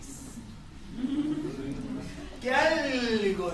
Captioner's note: laughter